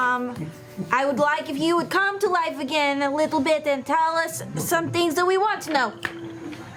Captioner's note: snaps